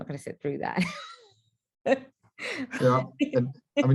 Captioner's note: light laughter